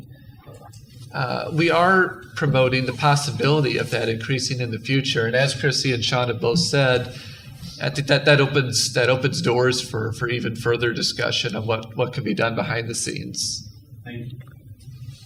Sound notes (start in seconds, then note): none